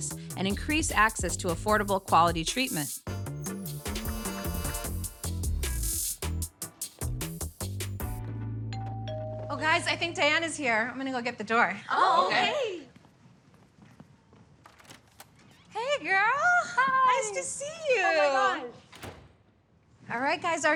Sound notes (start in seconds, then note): 8.7 bell ringing